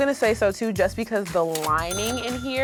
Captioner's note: cash register dings